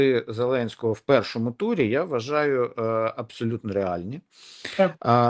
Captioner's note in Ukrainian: сопіння